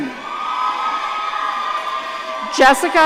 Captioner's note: audience cheering